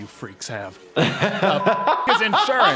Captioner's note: laughs